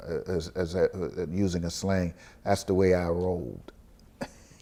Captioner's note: laughs